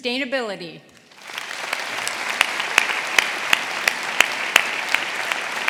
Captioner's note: audience applauding